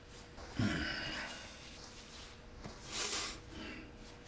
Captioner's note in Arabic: أصوات فرك وربت; شهيق، وزفير